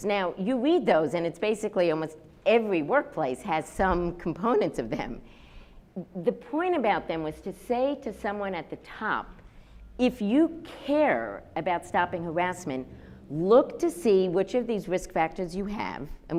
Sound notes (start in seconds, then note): none